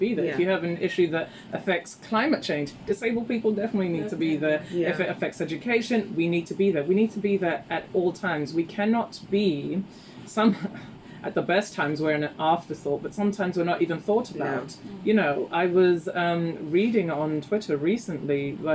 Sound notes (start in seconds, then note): 9.9 chuckles